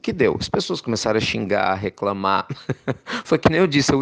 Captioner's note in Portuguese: risos